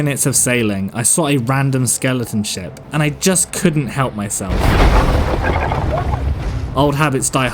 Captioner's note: ship Crashing Sounds